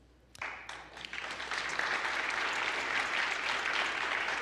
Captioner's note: applause